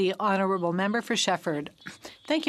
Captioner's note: speaking French